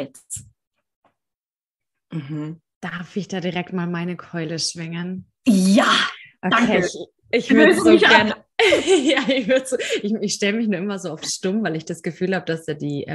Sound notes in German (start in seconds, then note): 7.5 lachen